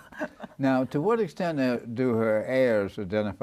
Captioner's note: joint laughter; luahgter